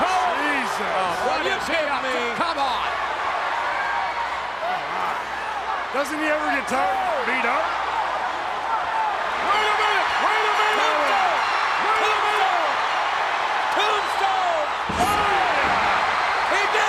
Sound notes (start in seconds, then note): 11.0 audience cheers; 15.2 audience cheers